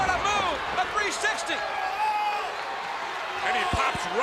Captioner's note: crowd cheering